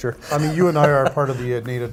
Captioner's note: laughing